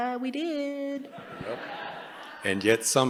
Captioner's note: laughter